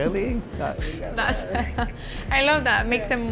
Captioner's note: laughs